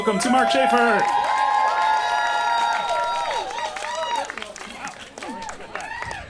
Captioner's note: audience cheers